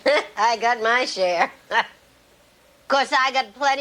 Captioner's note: laughs